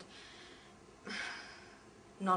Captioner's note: sigh